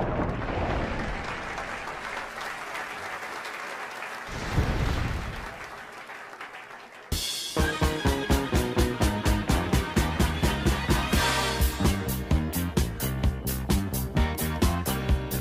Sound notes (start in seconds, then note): 4.3 thunder crash